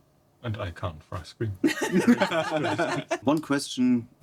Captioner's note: laughing